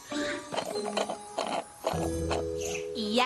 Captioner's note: tinkling; slurp! slurp! slurp!